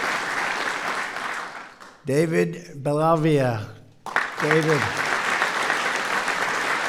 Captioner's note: applause